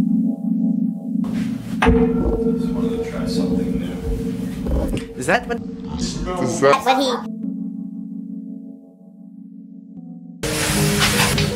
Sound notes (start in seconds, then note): 6.5 distorted